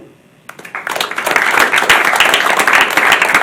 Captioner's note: applause